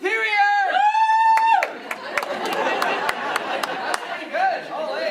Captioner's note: one person cheering; laughing